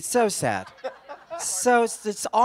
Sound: laughter

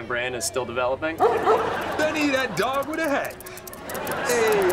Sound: barking

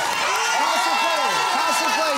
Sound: cheering and applause

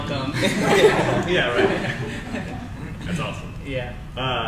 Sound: crowd laughs

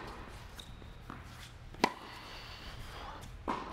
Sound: ball volleying

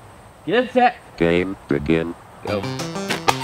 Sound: robot Voice

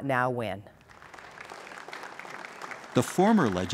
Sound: applause

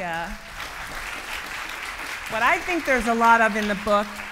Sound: clapping

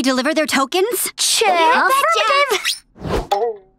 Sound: chattering

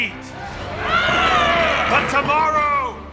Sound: cheering

